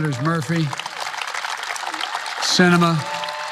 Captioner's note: applause